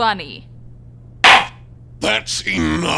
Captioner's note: gavel slams!